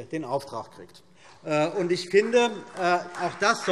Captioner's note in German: Beifall BÜNDNIS 90/DIE GRÜNEN und vereinzelt SPD